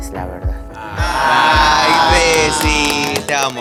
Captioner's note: collective aww